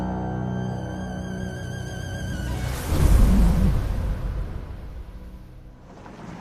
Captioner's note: sandstorm